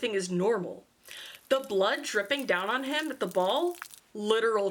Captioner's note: liquid spill